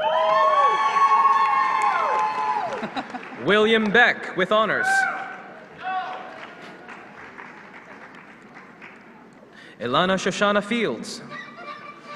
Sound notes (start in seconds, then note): 1.4 applause